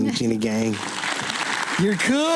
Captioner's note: applause